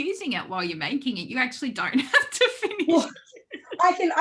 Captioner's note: laughs